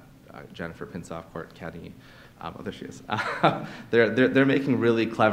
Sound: laughs

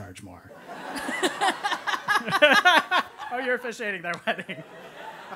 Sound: laugh

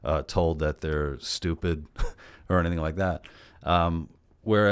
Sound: laughs

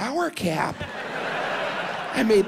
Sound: audience laughs

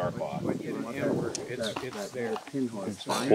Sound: background talking

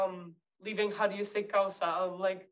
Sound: speaks Spanish

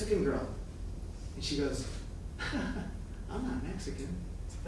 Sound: laughing

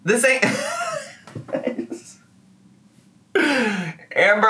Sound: laughs

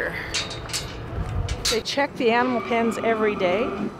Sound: gate clanking

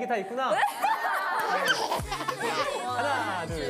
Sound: haha

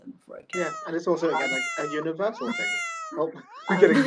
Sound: meow sounds

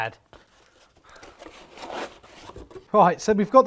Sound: rummaging

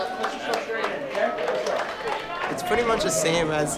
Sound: group clapping

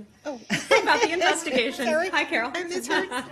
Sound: laughter

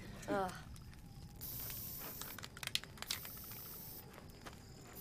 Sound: can spraying

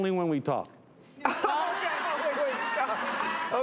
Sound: laughter

